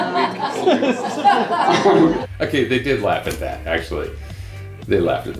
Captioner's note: laughter